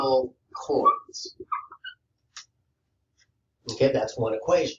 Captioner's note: marker squeaking